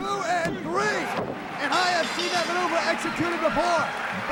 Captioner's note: bell ringing